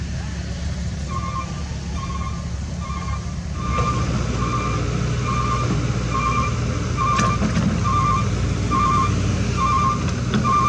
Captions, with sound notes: [Engine Rev] Fuso Reverses In! Repositioned Canter Ready For Soil Loading